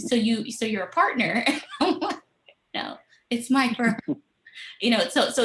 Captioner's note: laughter